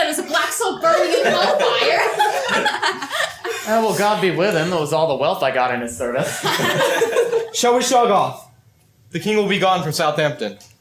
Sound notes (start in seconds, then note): 1.0 laughter; 6.2 laughter